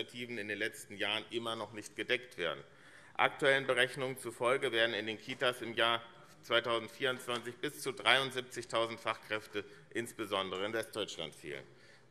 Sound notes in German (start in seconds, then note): none